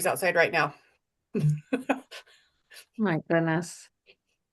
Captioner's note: laughs